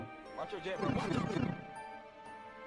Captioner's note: sm64mariopipe.mp3